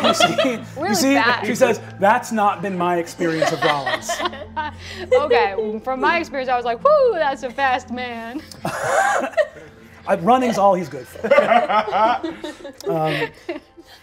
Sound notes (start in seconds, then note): 8.4 laughing; 11.0 all laugh